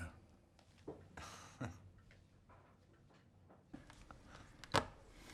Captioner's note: Rob chuckles